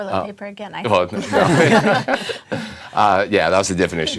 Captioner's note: laughter